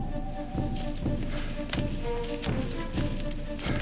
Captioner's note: panting